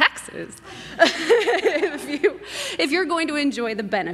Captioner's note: laughs